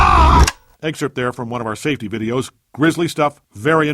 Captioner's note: click